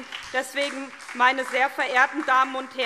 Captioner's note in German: Beifall SPD